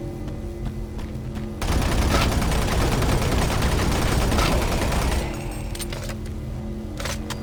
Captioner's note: gun firing